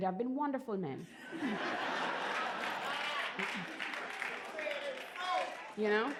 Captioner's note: laughter and applause